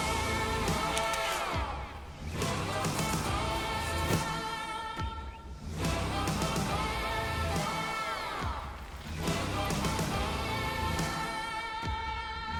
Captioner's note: traffic sounds, music plays